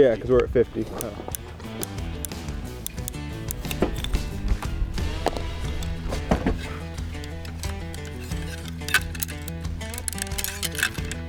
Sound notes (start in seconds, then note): 0.6 scope clicking; 2.7 exciting music; 8.4 metal clinking